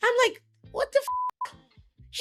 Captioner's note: beep